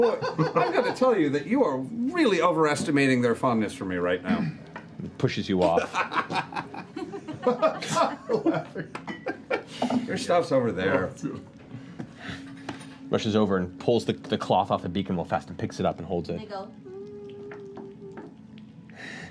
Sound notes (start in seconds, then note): 9.3 laughs; 16.7 hums